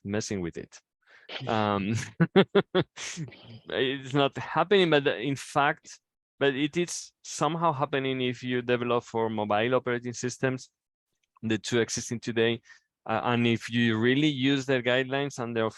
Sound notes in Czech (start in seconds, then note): 1.3 Smích